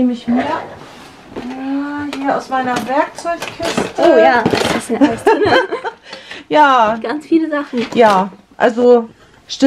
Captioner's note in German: lachen